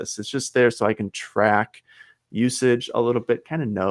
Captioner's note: none